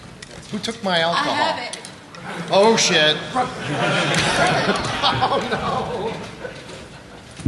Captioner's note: laughter